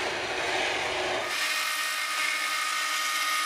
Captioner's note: whirring